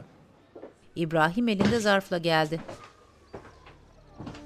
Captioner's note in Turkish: Ayak sesi